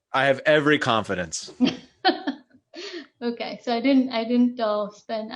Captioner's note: laughs